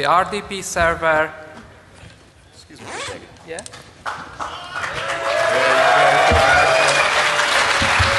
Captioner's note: applause